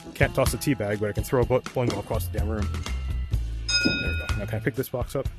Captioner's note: ding